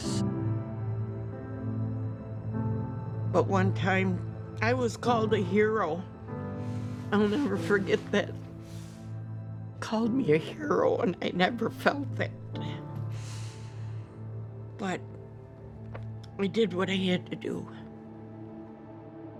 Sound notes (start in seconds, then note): 6.3 voice trembling; 13.0 breathes deeply